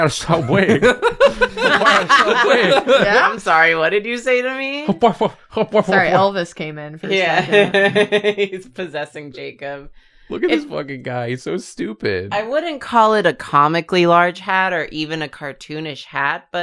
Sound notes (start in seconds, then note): 0.3 laughter; 7.0 laughs